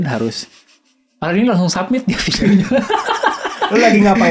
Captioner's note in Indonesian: Tertawa